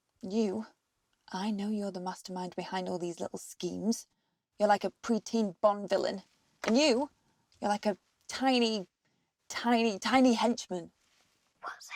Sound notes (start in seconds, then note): none